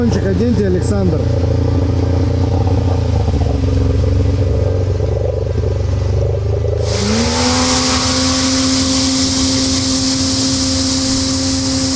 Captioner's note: engine sounds